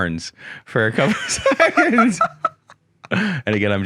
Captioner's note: both laugh